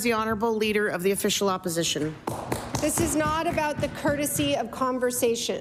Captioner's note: applause